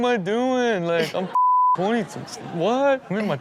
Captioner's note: beep